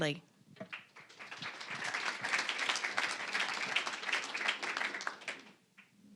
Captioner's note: applause